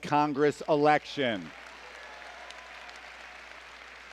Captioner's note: applause